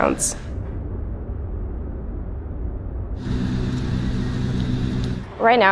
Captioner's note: city noise